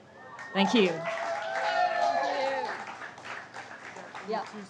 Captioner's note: crowd cheers